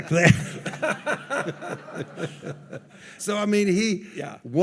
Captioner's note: all laughing